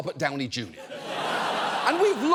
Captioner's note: audience laughs